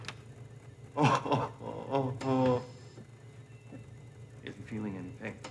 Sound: Donald groans

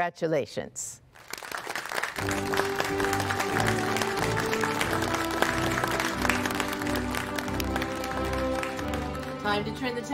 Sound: applause

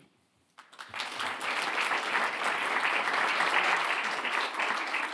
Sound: audience applauding

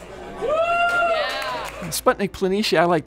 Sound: people cheering

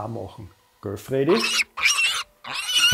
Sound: squeak

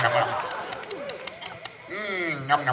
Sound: WOLF smacks lips

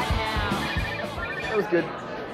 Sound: phone dialing

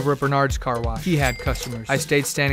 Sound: cash register bell rings

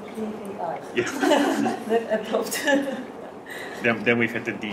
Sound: laughing

